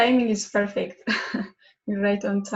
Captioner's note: chuckles